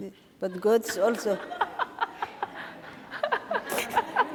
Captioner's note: laughing